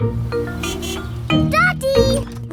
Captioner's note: horn honks